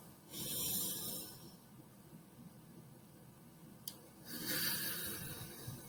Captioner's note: inhales through nose; exhales through mouth